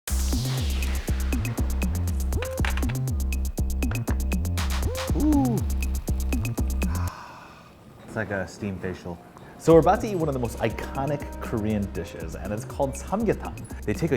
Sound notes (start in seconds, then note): 0.1 electronic pop music; 6.8 sighing